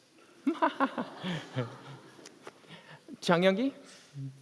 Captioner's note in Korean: 웃음